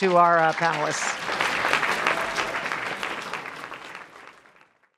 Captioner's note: applause